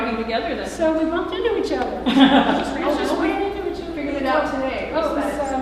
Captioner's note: laughter